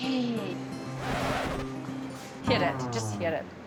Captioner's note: record scratching sound